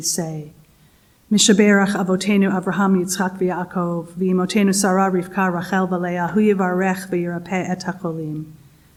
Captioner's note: spoken hebrew